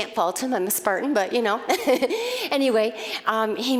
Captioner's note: laughing